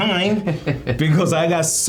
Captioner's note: laughing